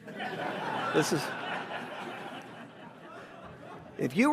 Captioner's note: audience laughs